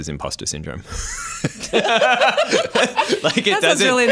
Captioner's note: laughter